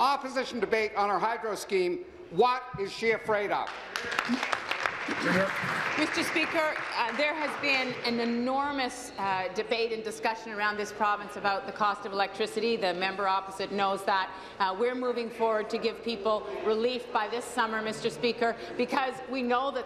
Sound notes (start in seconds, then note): 7.5 applause